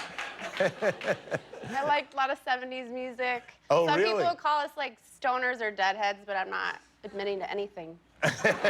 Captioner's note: laughter